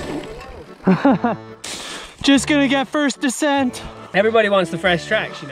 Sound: laughing

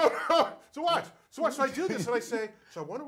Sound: laugh

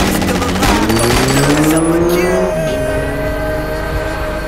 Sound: engine revving; rounds firing

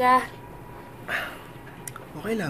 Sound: exhales

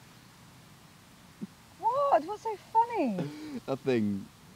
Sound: Dean chuckles

